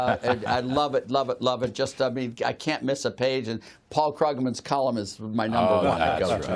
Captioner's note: laughter